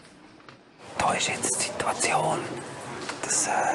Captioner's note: whispering